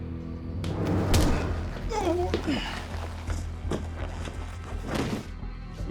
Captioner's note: tense music; thud, groan; thuds onto ground